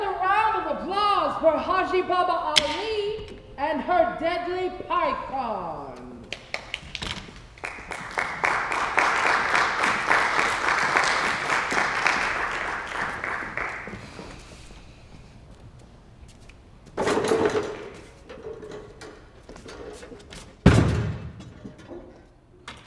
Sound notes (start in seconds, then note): 7.5 applause